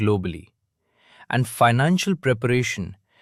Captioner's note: thoughtful